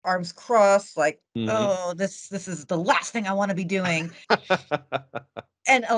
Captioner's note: laughing